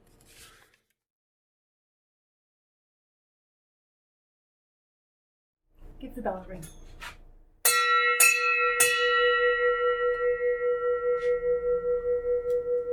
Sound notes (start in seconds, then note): 7.6 rings bell three times